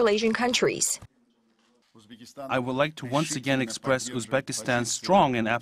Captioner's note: uzbek